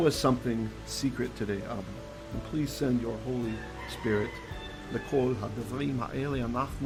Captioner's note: Hebrew